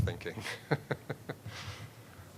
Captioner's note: laughing